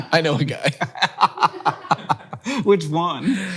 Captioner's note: Hank laughs